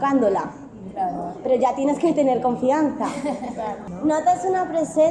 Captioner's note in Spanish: risas